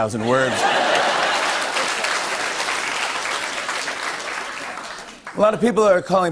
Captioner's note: laughter and applause